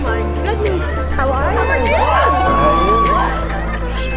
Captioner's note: cheering